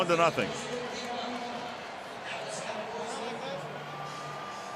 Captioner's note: pa announcement